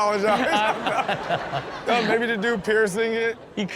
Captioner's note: everyone laughs